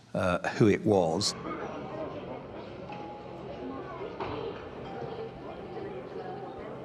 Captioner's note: people chattering